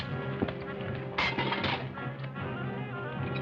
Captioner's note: glass breaking